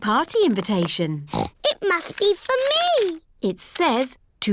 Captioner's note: snorts